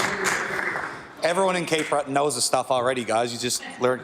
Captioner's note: applause